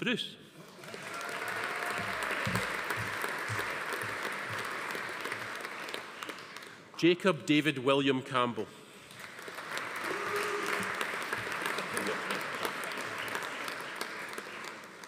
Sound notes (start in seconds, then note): 0.6 audience applauding; 0.8 attendee cheering; 9.1 audience applauding; 10.0 attendee booing; 11.5 attendees laughing